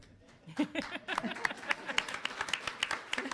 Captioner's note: laughter; applause